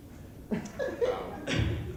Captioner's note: random giggle fit